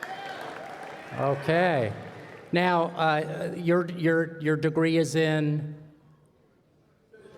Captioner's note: applause